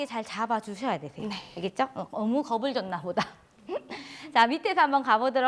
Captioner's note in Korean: 웃음